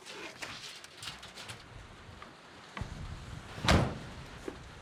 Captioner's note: door opens, slams shut